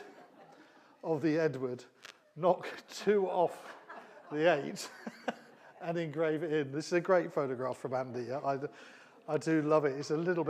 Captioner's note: laughter